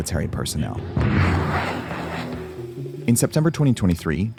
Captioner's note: missile whooshing